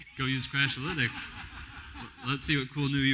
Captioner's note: laughter